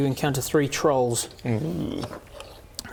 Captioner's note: excited